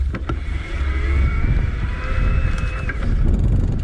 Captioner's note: motor humming